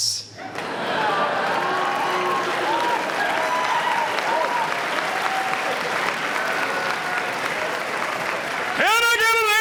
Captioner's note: applause